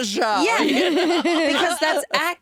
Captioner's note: laughing